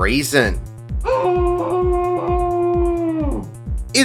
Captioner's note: muffled screaming